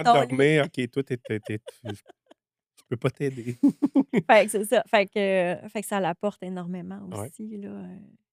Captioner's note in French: rires